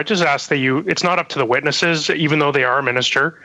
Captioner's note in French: voix de l'interprète